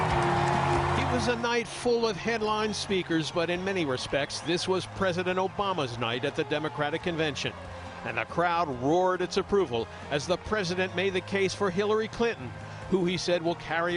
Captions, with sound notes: ON THEIR FEET, THEY COULD NOT STOP CLAPPING. [CHEERS AND APPLAUSE] THIS WAS PRESIDENT OBAMA'S NIGHT AT THE DEMOCRATIC CONVENTION.